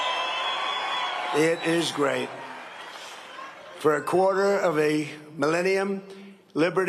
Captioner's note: cheering and applause